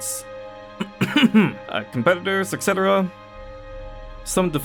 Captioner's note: coughs